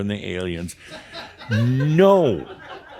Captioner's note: more chuckles